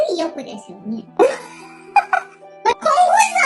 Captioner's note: laughs